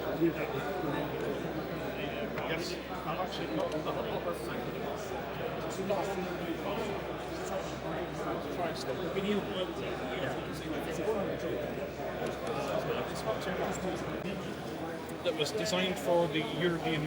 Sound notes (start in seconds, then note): 3.3 chattering